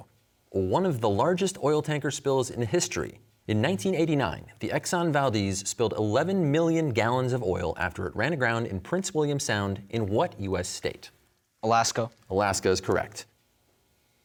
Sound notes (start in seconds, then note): none